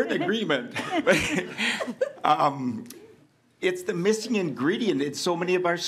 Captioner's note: laughing